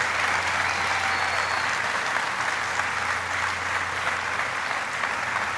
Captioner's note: applause